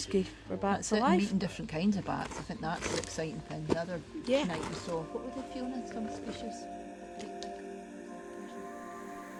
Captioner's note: voice fades out